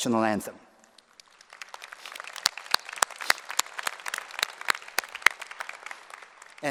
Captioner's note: applause